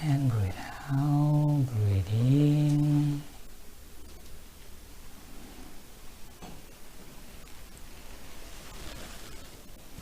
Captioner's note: breathe out